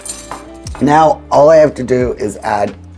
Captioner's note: utensil clinking; glass thudding softly